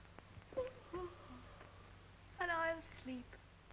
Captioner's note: yawns